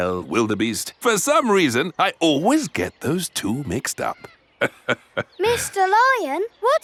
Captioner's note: laughs